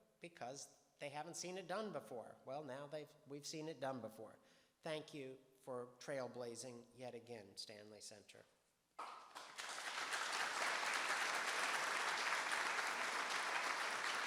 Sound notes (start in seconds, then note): 9.0 audience applauding